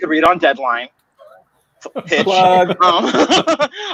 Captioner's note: laughing